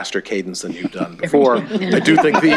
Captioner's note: laughter